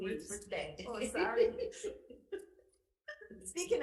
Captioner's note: group laughing